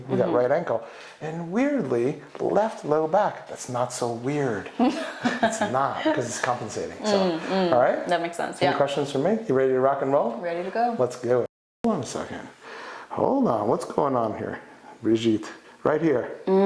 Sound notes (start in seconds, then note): 4.8 young lady laughs